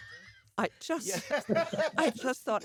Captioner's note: laughing